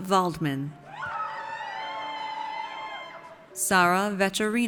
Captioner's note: audience cheers